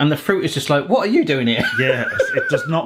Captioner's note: laughing